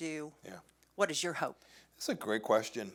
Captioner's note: soft Voice